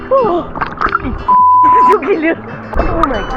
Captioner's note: toot